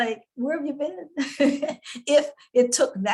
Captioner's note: laughs